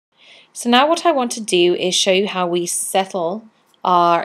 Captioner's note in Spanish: Voz en off